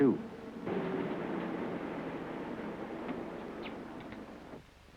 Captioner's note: machine hum